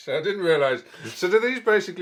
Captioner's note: laughs; mumbles